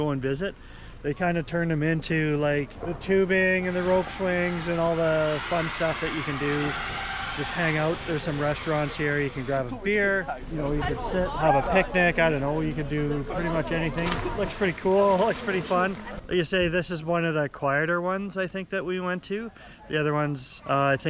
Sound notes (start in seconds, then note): 7.4 people cheering; 13.4 water splashing